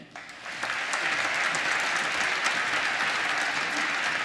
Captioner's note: applause